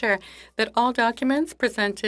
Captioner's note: speaking in French